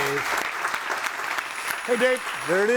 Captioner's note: audience applauding